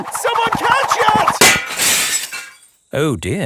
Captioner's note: shatters